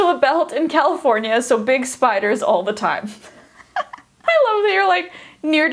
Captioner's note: laughs